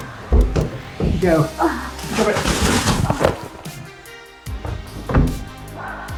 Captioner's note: speaking faintly